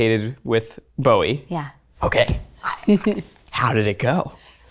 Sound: chuckles

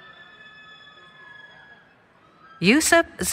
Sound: cheering

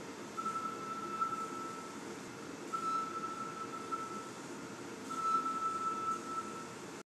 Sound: rhythmic beeping

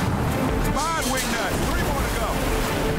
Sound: metal clanging; urgent music; water rushing

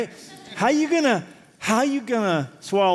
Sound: laughter

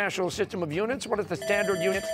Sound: bell ringing

